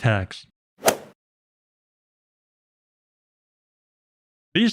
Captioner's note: golf ball hit sound effect